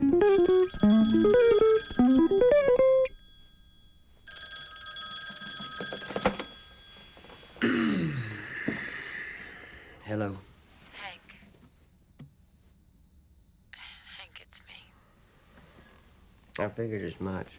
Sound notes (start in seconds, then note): 0.0 phone rings; 7.6 clears throat